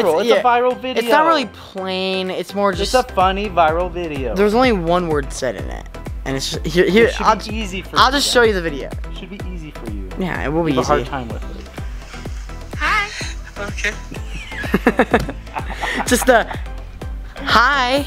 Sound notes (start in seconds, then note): 14.8 laughing